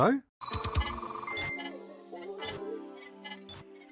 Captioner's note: text thudding; mellow music